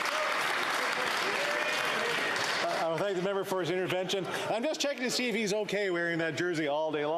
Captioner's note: some Applause